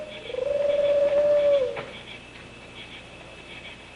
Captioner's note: bird call